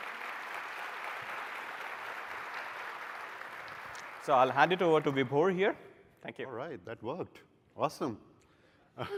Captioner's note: applause